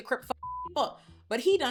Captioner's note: beep